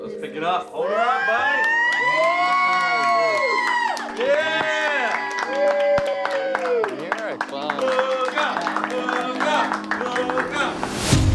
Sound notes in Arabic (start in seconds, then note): 1.2 تصفيق، تشجيع